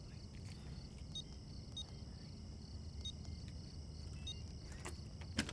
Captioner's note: keypad beeping